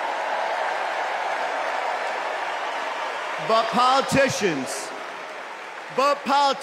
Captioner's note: cheers and applause